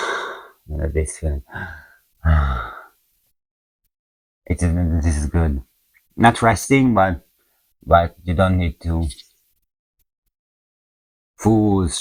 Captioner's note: deep breath